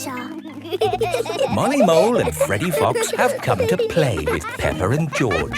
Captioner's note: laughing